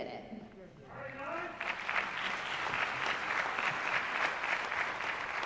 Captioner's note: applause